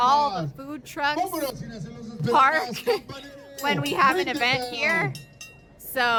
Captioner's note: laughs